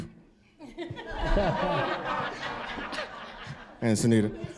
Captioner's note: audience laughing